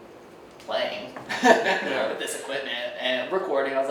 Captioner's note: laughs